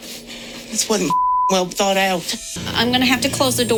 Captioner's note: beep